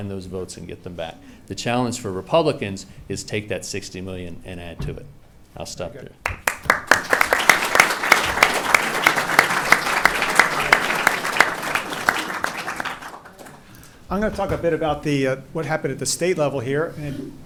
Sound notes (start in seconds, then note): 6.2 applauding